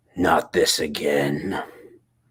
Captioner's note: none